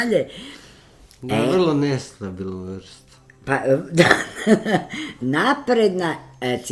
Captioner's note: laughter